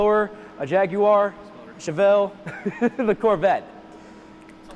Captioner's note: chuckles